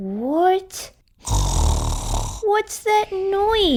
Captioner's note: snoring!